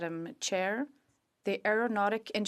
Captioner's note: speaking in French